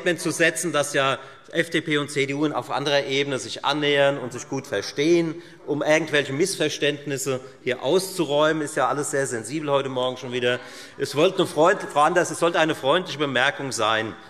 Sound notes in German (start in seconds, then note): none